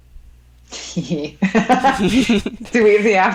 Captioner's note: women laughing